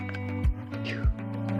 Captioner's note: phew